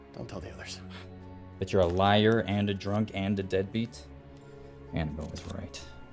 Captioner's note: scoffs